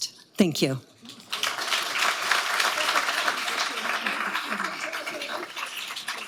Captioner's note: audience applauding